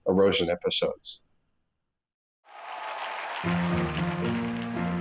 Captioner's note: audience applauding